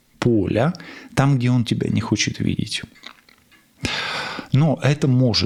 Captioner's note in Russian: вздыхает; тяжело вздыхает